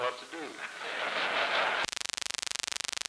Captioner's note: laughter